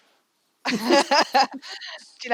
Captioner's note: laughter